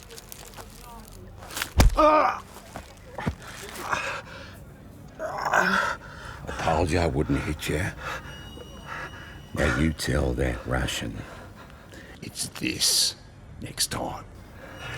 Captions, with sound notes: (groaning) I told ya I wouldn't hit ya. You tell that ration it's this next time.